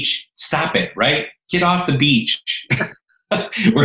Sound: laughs

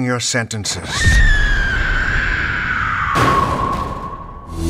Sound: generic, yet haunting screaming

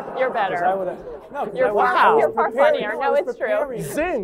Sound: laughter

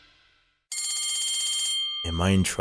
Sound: bell rings

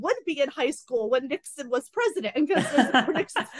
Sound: laughter

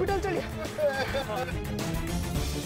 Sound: sobbing

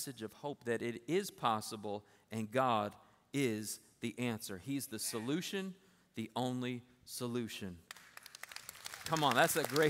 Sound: applause

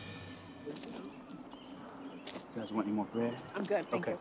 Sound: birds squawking

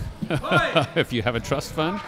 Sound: laughing

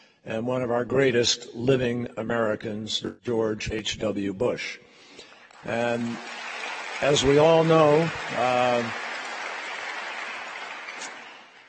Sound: applause

